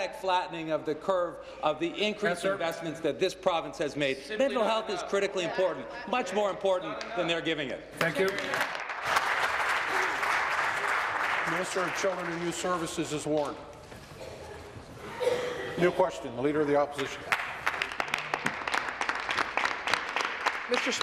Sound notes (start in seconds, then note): 12.2 applause